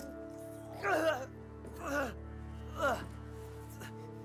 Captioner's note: groaning; vilma screams